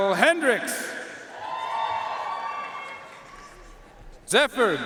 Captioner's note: audience cheering and applauding